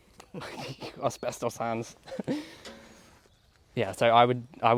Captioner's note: laughs